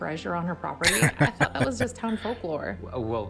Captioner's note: laughing